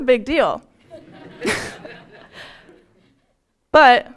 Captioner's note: laugher